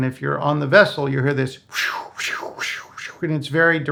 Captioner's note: rapidly whooshes